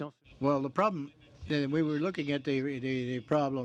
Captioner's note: speaking French